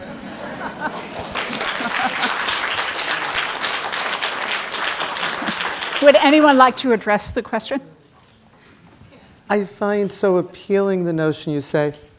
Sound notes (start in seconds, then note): 0.0 audience laughs and applauds; 5.2 chuckles